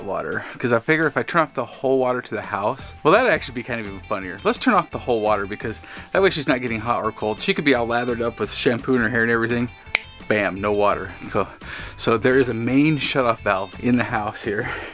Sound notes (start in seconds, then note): 9.9 snap